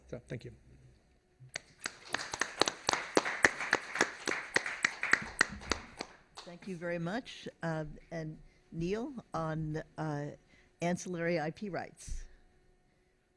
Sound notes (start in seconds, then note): 1.6 applause